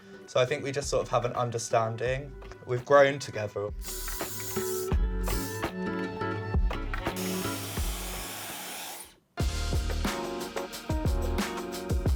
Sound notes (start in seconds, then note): 3.7 hairspray spraying; 7.1 hairdryer blowing; 9.4 upbeat music